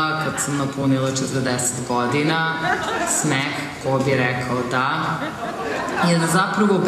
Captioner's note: laughter